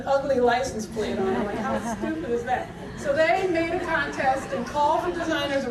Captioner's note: audience laughter